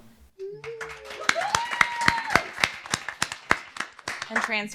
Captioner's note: cheers; applause